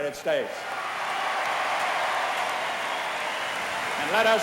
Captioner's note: cheering